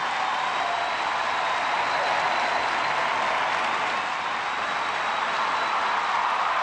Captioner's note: cheers and applause